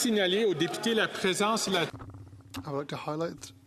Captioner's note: some Applause; speaking French